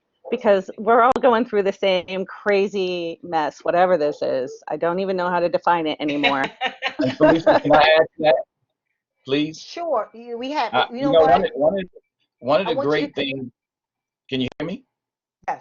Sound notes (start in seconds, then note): 6.0 laughing; 10.4 chattering